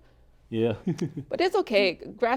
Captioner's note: laughs